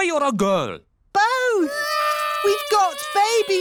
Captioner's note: babies cry